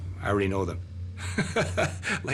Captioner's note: laughs